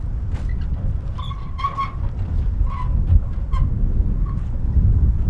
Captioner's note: wheelbarrow squeaking